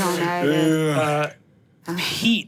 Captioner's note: groans